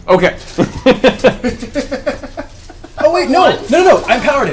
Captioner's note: all laugh